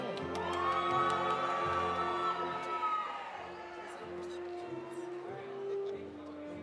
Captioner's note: audience cheering; audience applauding